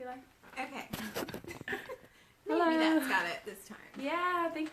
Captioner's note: both laughing